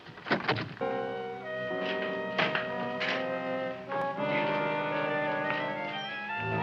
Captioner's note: door ratting; dramatic music